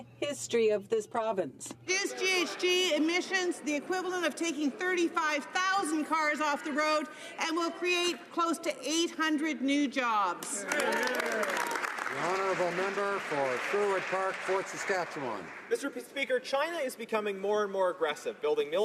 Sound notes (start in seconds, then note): 14.1 some Applause